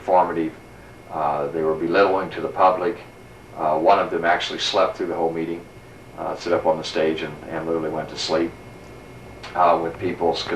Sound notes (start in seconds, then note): none